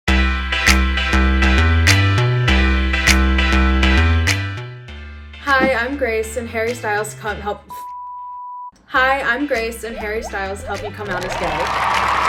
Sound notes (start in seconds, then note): 0.2 upbeat music; 7.7 beep